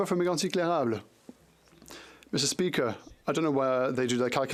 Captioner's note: speaking French